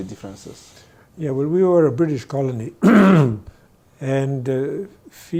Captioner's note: clears throat